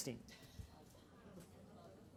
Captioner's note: chatter